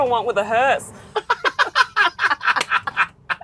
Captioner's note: both laughing